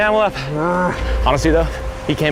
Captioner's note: groaning